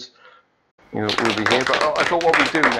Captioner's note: applause